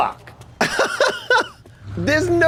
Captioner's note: laughs